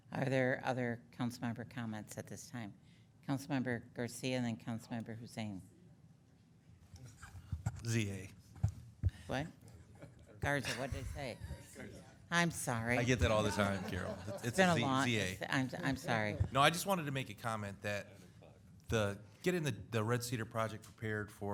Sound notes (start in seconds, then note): 14.3 councilmembers laughing